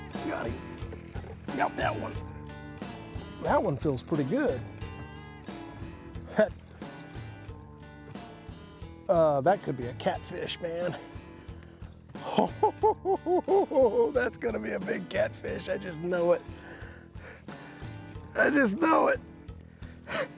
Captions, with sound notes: Got him! Got that one! That one feels pretty good. Uh, that could be a catfish, man. [chuckling] That's gonna be a big catfish, I just know it! I just know it.